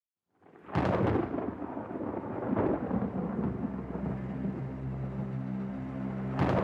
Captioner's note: lightning stikes